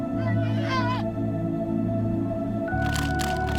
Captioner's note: cubs squeaking; light music; cameras clicking